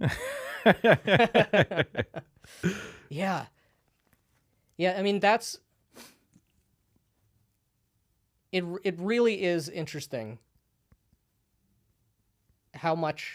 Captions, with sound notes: (laughing) - Yeah. Yeah, I mean, that's, it really is interesting how much,